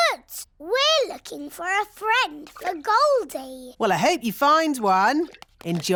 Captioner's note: none